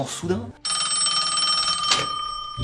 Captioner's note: phone rings